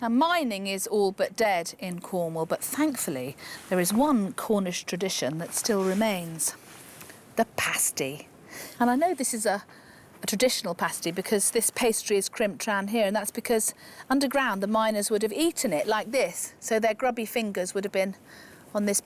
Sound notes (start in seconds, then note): none